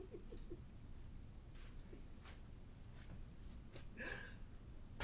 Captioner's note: Captain Brookes giggles